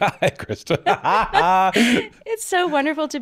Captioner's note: laughing